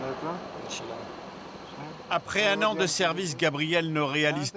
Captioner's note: French spoken audio